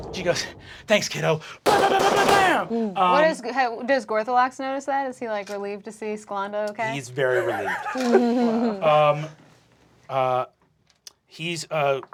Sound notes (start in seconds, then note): 1.7 bullets firing; 1.7 imitating gunfire; 10.0 cast laughing